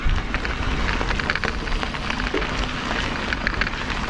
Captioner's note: crackling